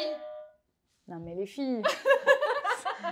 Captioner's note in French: rires